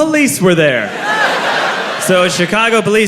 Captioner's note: croud laughs